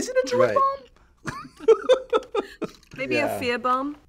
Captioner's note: laughter